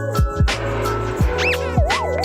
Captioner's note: squeaky toy